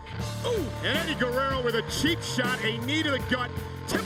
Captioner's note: none